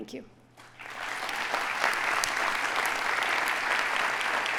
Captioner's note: audience applauding